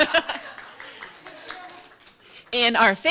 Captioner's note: applause